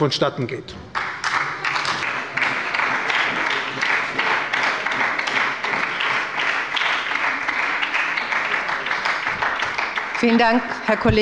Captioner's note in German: Beifall bei der SPD